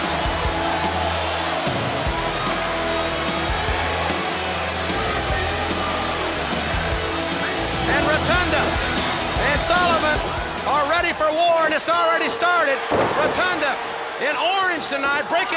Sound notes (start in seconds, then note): 11.7 bell rings